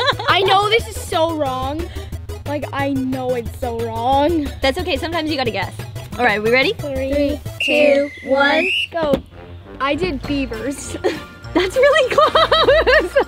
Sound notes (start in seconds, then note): 7.4 whistle blows; 12.2 laughs through the word